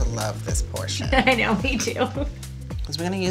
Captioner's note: chuckling